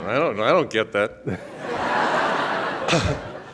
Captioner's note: audience laughs